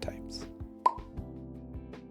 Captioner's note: pop